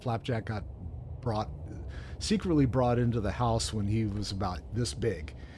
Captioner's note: none